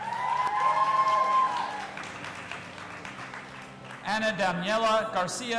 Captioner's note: audience applauding and cheering